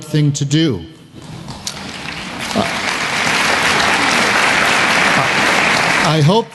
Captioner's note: applause